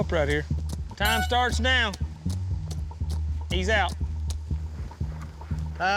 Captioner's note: horn blows